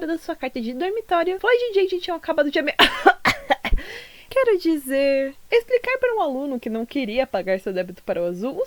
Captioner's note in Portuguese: tosse